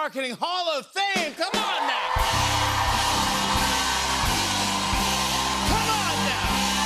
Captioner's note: cheers and applause